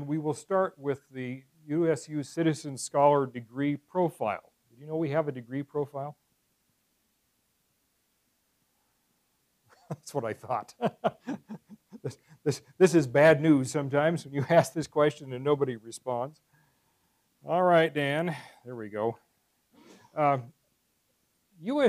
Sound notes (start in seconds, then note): 10.7 laugh